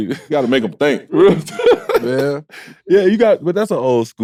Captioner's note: laughing